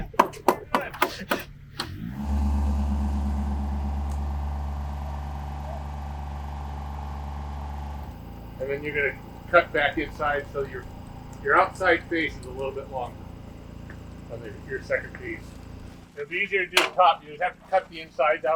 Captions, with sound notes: - Sure, why not? (machine thrumming) - And then you're gonna cut back inside. So your outside face is a little bit longer. Than your second piece. It'd be easier to do the top. You'd have to cut the inside